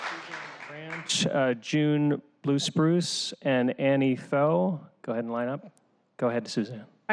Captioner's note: applause